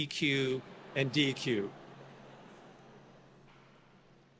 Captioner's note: audience laughs